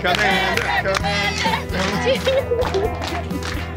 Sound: chanting; clapping

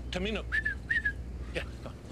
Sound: whistles

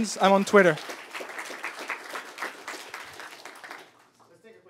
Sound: applause

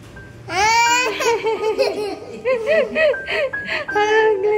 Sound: laughing

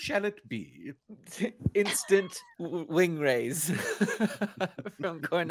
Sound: laughing

